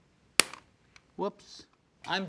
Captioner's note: press snaps